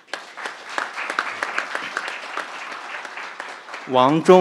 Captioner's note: crowd applauding